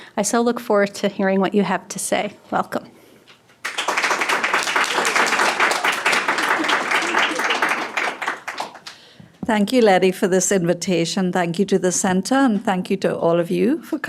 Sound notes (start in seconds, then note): 3.6 audience applauding